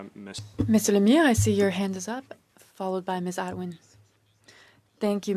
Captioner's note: speaking French